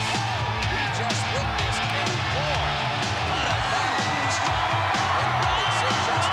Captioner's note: crowd cheering